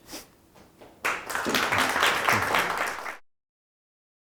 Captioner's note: students applaud